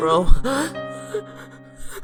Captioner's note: gasps